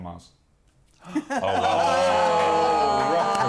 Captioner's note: all saying oh